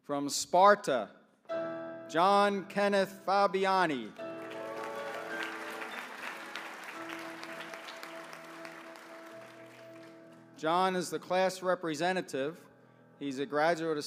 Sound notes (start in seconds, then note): 4.1 applause